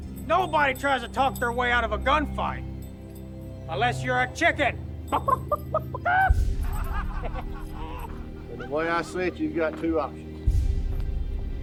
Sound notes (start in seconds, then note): 5.0 gang laughing; 5.1 clucking